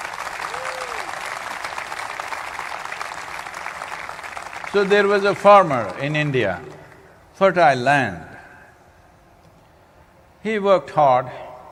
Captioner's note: applause